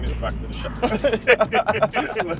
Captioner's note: laughing